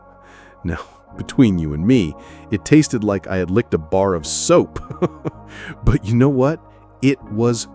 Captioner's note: chuckles